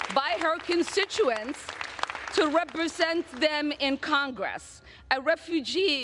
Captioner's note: applause